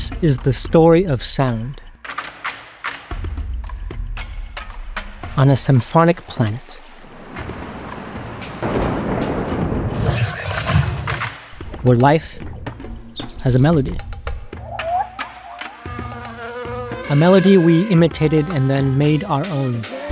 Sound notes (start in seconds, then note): 2.0 light rhythmic drums; 6.9 roar of waterfall; 8.8 thunder crackles; 9.9 dinosaur snarls; 12.4 bird chirps; 14.7 monkey calls; 15.8 bee buzzes